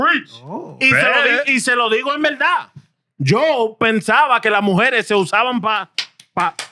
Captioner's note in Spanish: Hablando en idioma extranjero